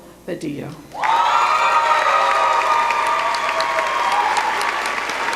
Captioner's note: cheering